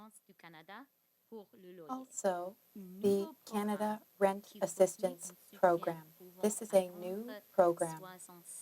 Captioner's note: speaking French